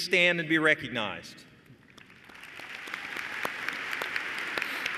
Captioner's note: applause